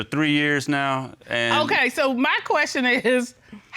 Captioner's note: chuckles